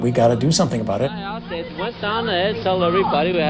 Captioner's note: soundbite of archived recording